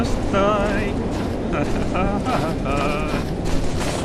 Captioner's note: singingly nervous laughter